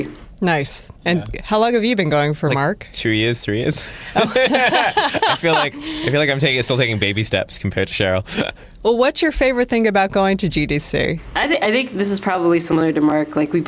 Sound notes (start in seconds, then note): 3.8 laughter